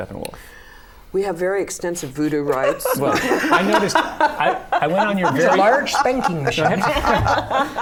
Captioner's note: laughter